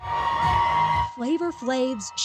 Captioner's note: cheers